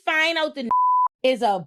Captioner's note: beep